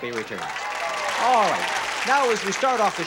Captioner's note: applause